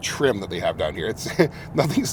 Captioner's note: laughs